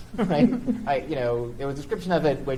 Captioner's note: chuckles